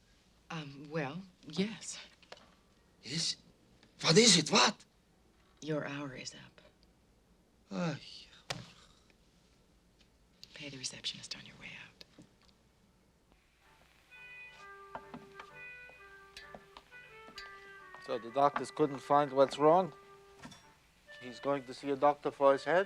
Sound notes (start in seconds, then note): 7.9 sighs; 14.1 dramatic music playing